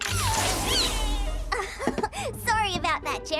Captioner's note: giggles